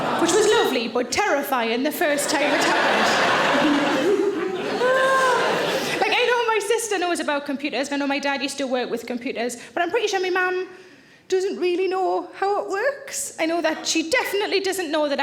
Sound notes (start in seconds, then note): 2.0 audience laughing